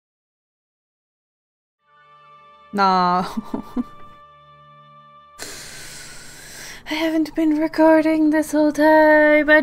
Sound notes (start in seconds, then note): 3.2 sad l augh